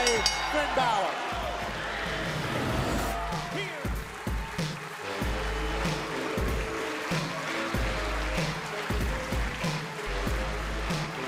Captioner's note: bell ringing